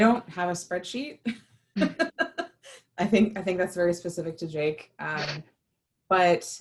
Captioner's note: laughter